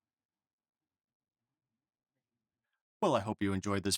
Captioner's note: silence